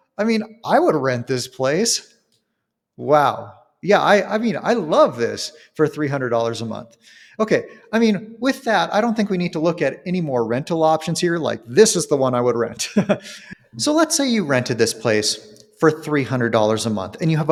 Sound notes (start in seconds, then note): 12.8 chuckles